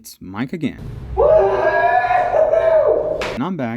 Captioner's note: cheers up